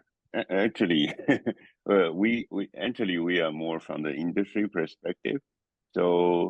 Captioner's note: laugh